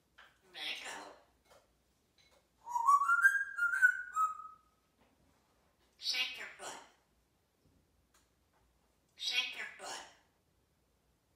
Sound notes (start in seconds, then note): 2.6 whistling